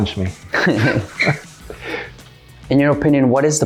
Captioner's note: both laugh